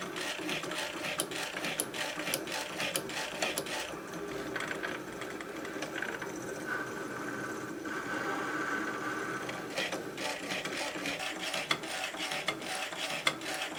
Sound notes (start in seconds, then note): 0.0 machine grinding and clicking